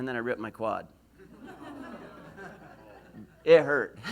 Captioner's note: laughs